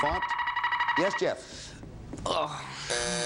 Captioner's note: buzzer sounds